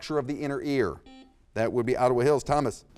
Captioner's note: buzzer beeps